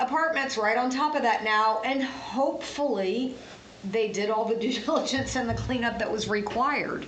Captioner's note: laughs